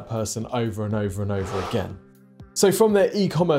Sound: screen wipe whooshes

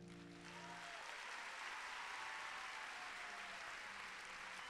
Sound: applause

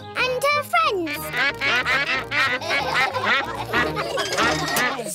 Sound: quacks; all quack; laughter

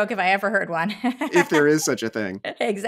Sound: laughing

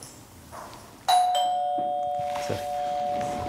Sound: doorbell rings

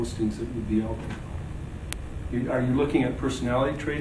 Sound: speaks off microphone

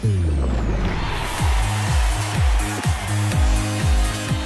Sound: audience cheering

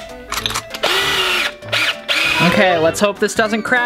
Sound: drill sounds

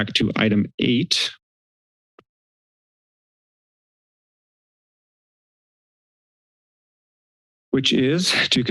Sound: silence

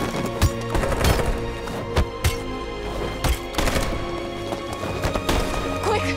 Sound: banging, gunfire

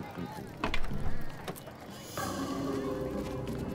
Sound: car door opening

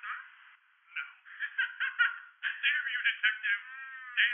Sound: evil Laughter

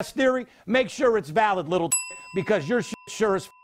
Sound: dinging

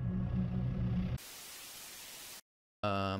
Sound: static noise

